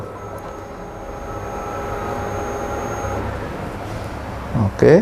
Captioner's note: printer machine noise